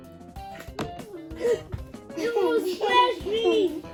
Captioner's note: kids gasp